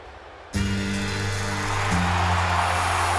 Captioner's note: crowd cheering; rock music